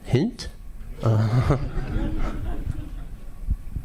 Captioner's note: audience laughing